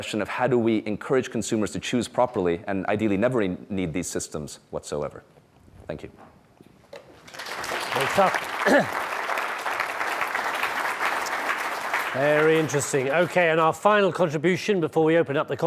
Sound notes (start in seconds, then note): 7.2 clapping